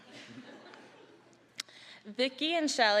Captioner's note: audience chuckling